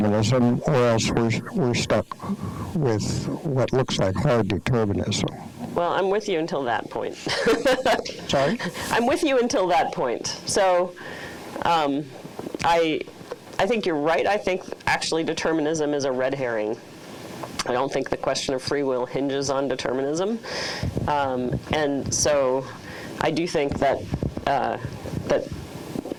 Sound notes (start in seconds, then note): 7.1 laughing